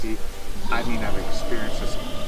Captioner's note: Sasquatch roaring